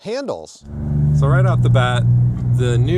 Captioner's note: engine purring